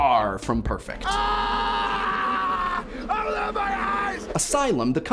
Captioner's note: screams